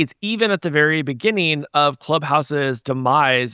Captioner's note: none